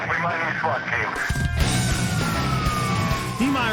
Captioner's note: sirens wailing